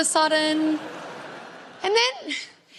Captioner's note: crowd laughs